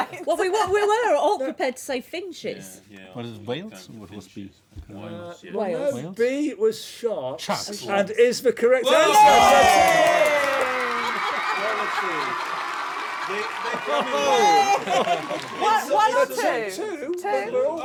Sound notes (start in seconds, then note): 9.9 shouts; 10.4 applause; 14.5 laughter